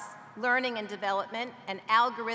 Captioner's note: none